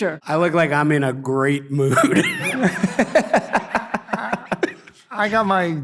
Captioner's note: laughs